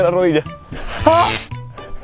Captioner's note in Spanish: Gritos